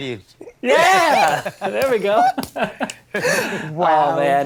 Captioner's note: all laughing